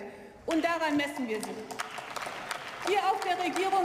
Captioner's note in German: Beifall